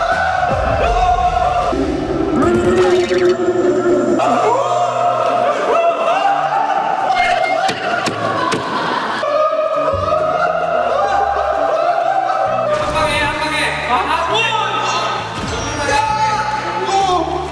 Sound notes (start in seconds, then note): 3.9 there is so much screaming and noise right now